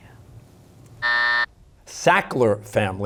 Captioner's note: buzzer